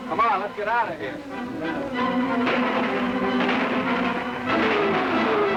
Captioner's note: guns firing